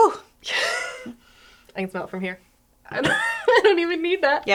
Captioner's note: laughs